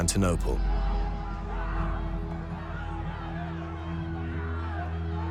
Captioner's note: clamouring